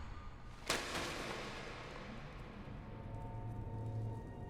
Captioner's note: voices whispering; object clatters; foreboding eerie music